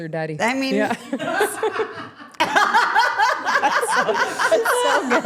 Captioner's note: everyone laughing